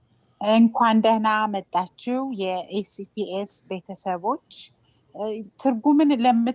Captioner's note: speaking foreign language